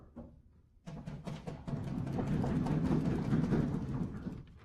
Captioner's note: applause